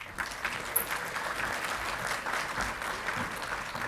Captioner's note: audience clapping